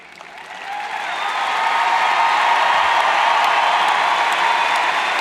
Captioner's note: cheers and applauds